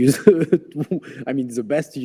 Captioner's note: laughs